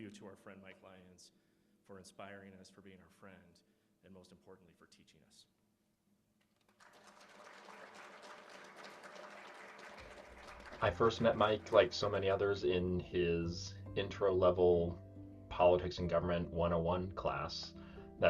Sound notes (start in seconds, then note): 6.5 applause